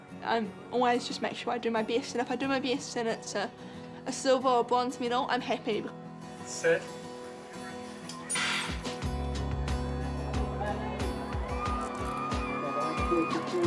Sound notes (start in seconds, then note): 8.4 starting gun fires; 10.4 cheering, shouts of encouragement